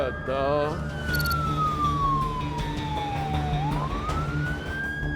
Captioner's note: siren